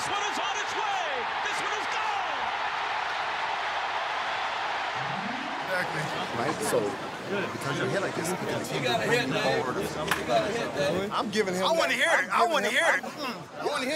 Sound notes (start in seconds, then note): 2.7 audience cheering